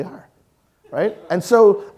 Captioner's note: audience laughing